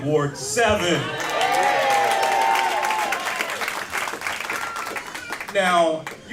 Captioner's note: cheers and applause